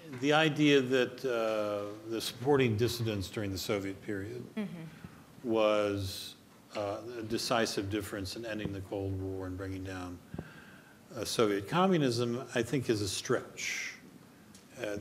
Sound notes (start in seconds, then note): none